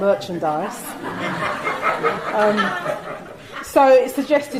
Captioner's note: audience laughing